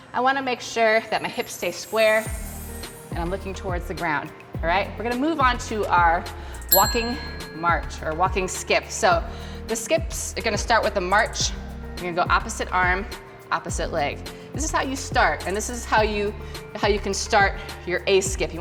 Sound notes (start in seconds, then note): 6.6 bell ring